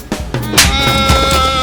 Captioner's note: slap!